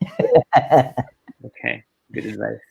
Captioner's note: laughing